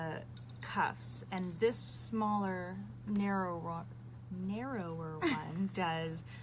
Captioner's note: laughs